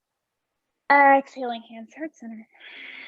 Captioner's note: exhaling